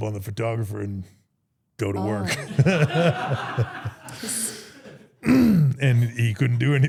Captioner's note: everyone laughs